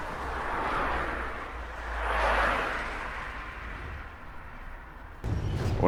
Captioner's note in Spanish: Sonido de autos circulando en carretera a alta velocidad